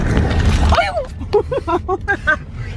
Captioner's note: yelling; laughing